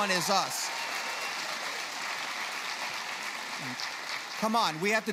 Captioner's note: cheers